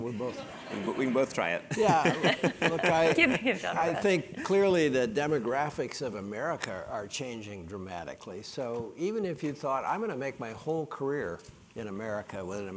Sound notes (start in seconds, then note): 1.7 laugh